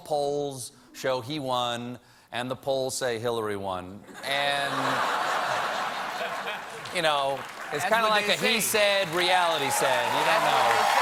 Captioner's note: laughter